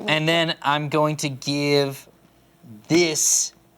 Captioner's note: none